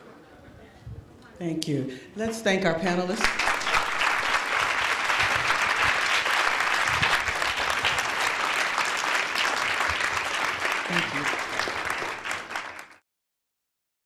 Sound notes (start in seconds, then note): 3.3 applause